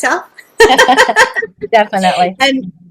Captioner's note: laughing